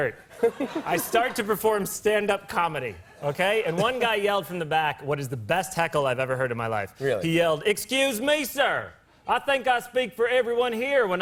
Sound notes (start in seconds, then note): 7.5 southern accent